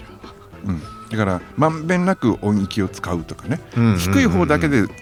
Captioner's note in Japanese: 咳払い